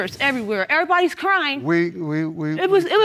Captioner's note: stammering